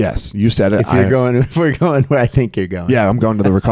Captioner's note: laughing